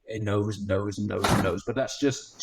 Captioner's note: door thuds